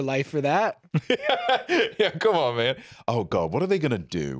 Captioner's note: laughs